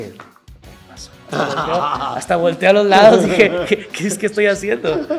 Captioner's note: laugh